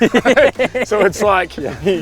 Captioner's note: laughs